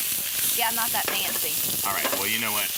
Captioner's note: sizzling